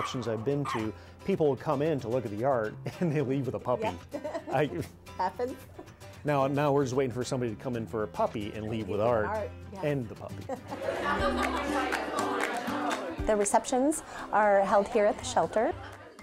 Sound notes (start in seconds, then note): 3.9 laughs; 10.3 laughter and indistinct conversation